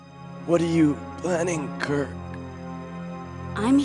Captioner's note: coughing